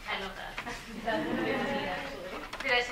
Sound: laughs

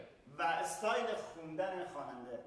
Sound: speaking in farsi

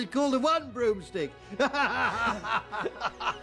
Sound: laughing

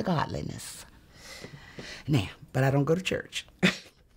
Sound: chuckles

